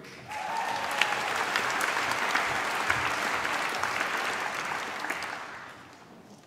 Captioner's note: applause